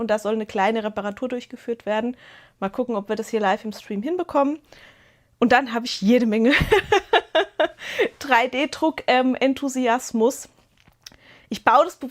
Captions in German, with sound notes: da soll eine kleine Reparatur durchgeführt werden. Mal gucken, ob wir das hier live im Stream hinbekommen. Und dann habe ich jede Menge [Gelächter] 3D-Druck-ähm-Enthusiasmus. Ich baue das